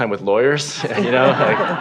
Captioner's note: laughter